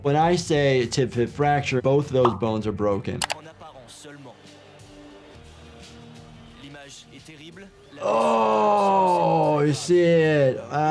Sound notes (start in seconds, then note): 3.3 commentator speaking in foreign language